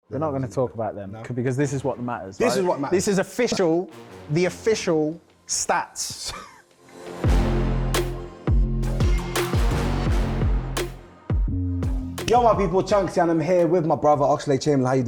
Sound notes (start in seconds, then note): 6.3 Chunkz chuckles; 6.7 drill music plays